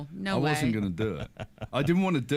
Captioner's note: chuckling